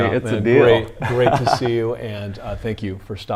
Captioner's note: laughs